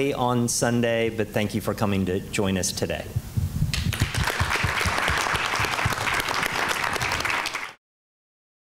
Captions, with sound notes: on Sunday, but thank you for coming to join us today. [APPLAUSE]